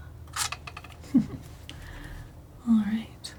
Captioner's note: giggles